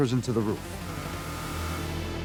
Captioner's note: alarm blaring